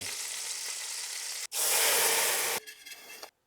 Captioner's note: sizzling sound